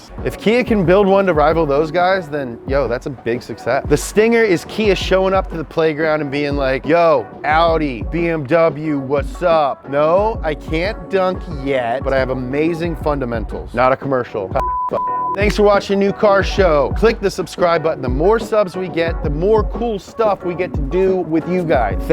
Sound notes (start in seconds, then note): 14.6 beep